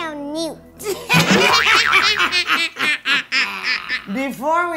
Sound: evil laugh

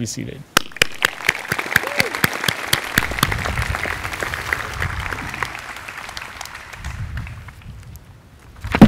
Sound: applause

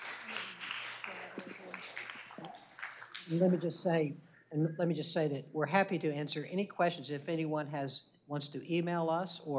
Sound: applause

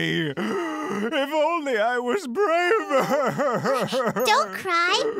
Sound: sob

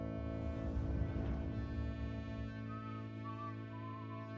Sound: Tom whistling

